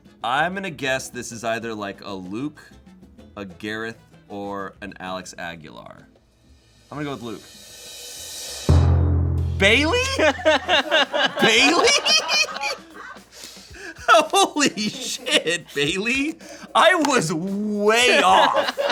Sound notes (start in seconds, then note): 8.5 thud booms; 10.1 crew laughing; 12.5 laughing